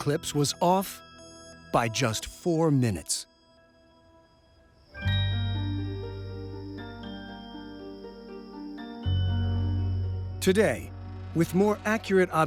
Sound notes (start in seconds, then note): none